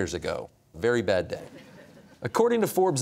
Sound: audience chuckles

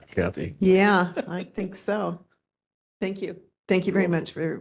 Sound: laughing

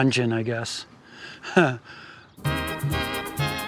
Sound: chuckles

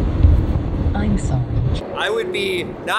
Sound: computerized Voice

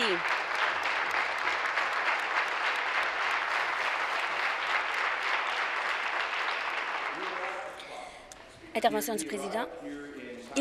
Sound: applause; continued applause

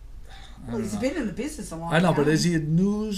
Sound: voiceover

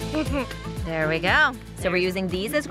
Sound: laughs

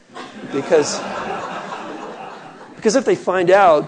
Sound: laughing

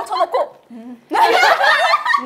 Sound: laughing

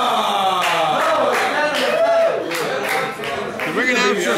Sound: applause

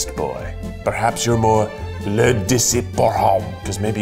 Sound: speaks French

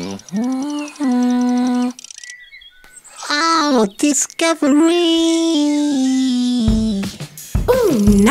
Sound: Poc hums

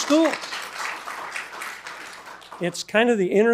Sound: attendees applauding

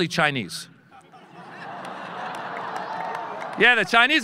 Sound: audience laughing

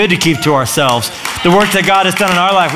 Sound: applause

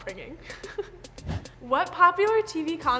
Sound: chuckling

